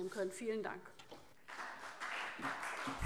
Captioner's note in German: Beifall CDU und BÜNDNIS 90/DIE GRÜNEN